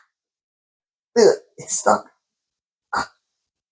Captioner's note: struggles